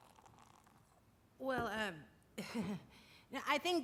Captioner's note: chuckles